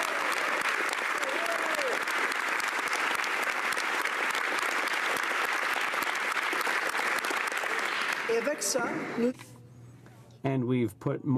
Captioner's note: applause